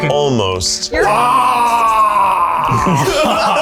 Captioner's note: in puppet voice; growls; laughs